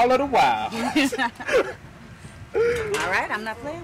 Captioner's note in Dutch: beiden lachen